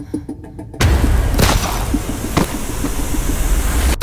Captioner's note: Ellie breathes uneasily; gun firing